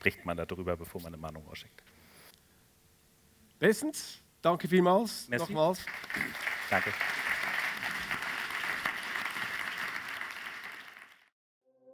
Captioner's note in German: applaus